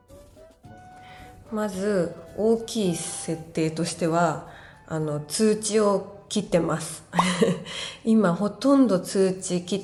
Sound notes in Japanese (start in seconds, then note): 7.6 息をのむ音